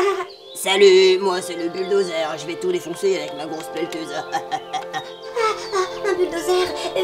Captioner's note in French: rire diabolique